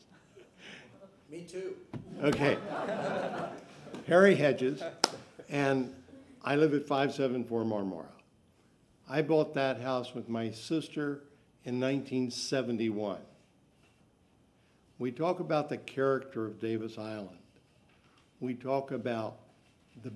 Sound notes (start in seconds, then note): 4.7 laughter